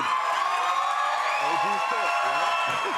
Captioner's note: cheers and applause